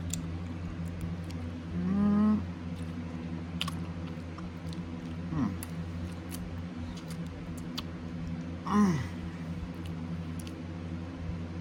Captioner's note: pleasantly moans, then licks her lips